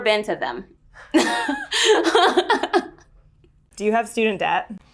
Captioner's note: laughs